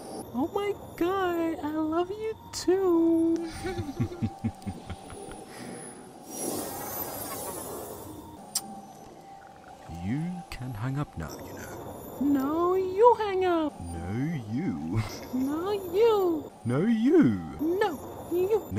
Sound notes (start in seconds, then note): 3.4 they both chuckle